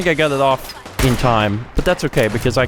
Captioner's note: blam!